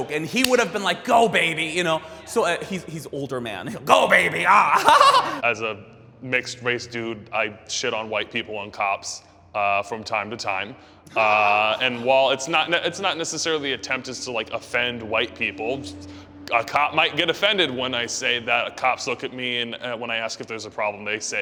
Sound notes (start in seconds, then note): 4.1 laughs